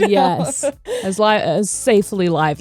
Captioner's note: laughing